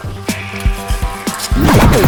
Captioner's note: ninja hisses; sword whining